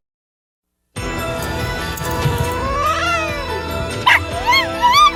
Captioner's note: hisses, then growls; barks and howls